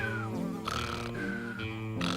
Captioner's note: snoring, whistling; flies buzzing